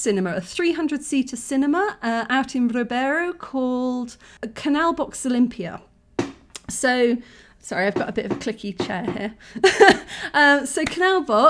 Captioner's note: creak; laughing